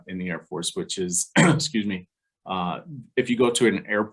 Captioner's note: coughs